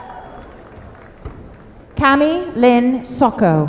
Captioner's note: applause